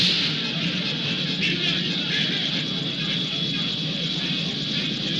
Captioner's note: panicked shouting